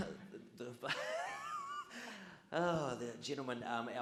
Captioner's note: audience laughs